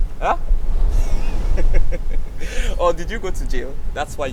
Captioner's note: laughing